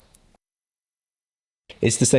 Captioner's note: light beep